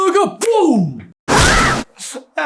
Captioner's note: screams